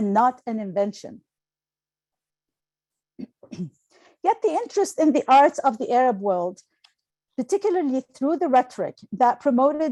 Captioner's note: clearing throat